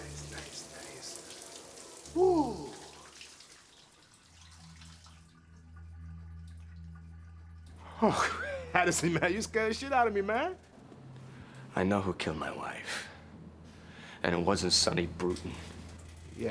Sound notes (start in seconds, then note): 0.0 shower curtain clatters open; 5.7 drain gurgling; 8.1 gasps